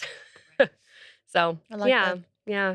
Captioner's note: laughs